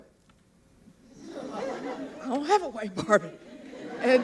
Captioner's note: laughter